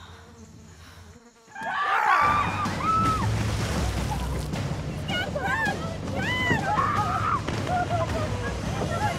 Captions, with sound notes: [screams] - He's got Brooke! [clamoring]